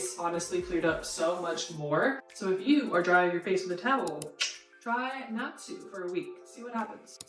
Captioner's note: click